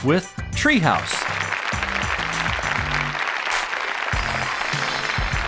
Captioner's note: audience applauding